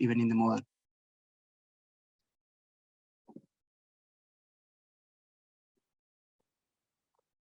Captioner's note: silence